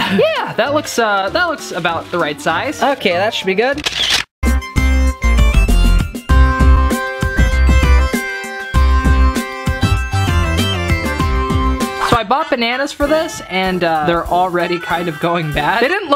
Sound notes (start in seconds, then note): 3.8 camera shutter clicking; 5.2 upbeat music